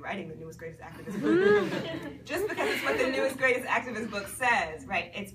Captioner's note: people laugh